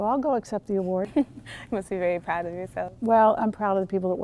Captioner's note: laughing